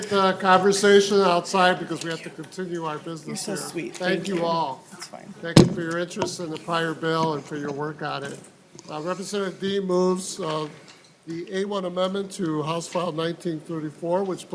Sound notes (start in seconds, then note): 5.5 gavel